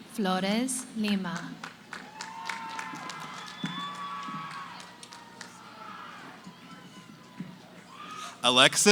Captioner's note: cheering, applause